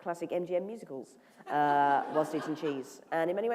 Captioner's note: laughter